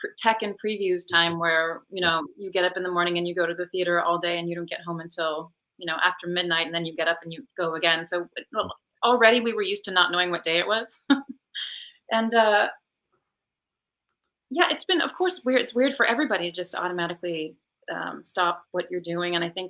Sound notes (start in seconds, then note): 11.7 laughs